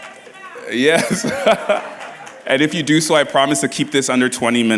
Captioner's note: laughs